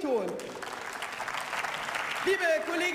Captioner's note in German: Beifall